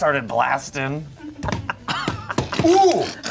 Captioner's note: everyone laughs